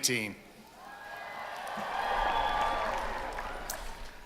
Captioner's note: cheering